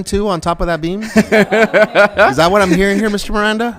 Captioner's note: members laughing